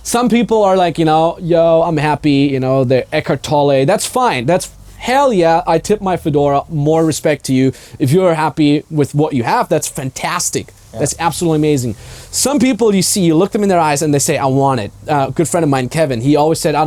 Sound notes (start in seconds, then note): 3.2 speaking foreign language